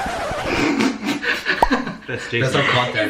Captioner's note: laughs